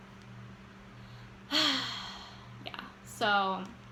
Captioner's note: sigh